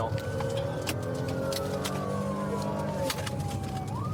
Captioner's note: siren blaring